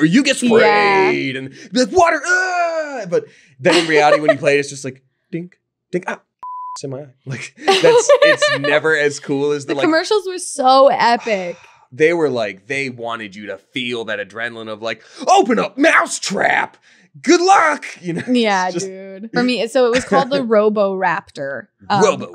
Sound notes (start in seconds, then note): 6.4 beep; 7.3 laughing